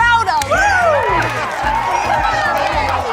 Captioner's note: people cheering